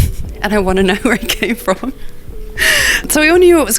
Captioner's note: laughs